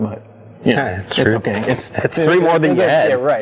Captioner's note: laughs